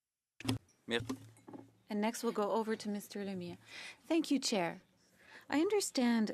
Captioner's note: speaking French